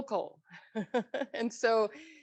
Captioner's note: laughs